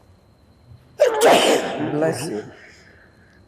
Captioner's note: sneezing